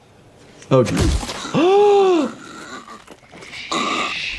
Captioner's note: gasps